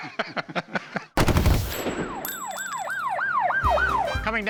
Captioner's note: laughter; gunfire; siren whooping